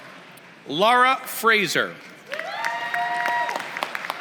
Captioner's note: applause